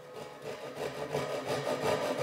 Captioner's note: sounds of sawing